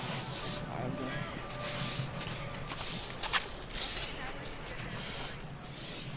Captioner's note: breathing heavily